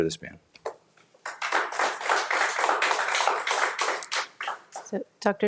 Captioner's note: audience applauding